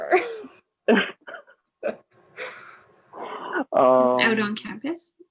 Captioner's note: laugh